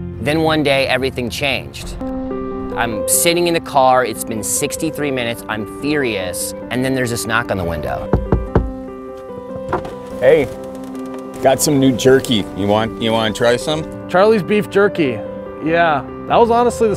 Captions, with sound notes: - Then one day everything changed. I'm sitting in the car, it's been 63 minutes, I'm furious, and then there's this knock on the window. (knocking) - Hey, got some new jerky, you want to try some? - Charlie's beef jerky, yeah that was honestly